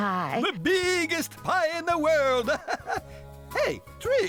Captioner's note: laughing